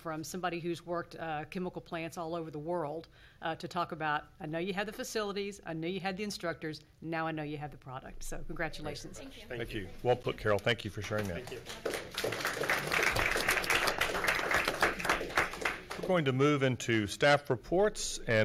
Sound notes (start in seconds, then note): 9.9 many voices; 10.9 applause